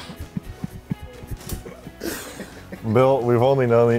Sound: laughing

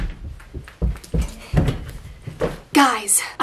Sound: door slams; quick footsteps

